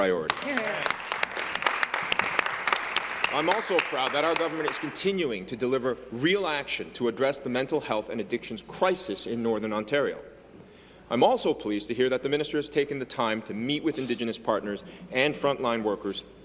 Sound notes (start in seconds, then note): 3.8 applause